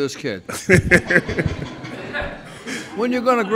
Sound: laughs

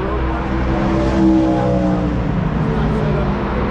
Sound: car passing

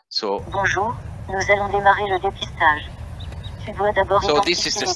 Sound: speaking in foreign language

